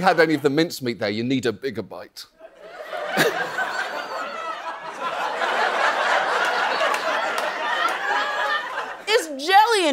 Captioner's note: laughs